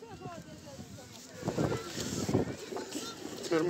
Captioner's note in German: Windrauschen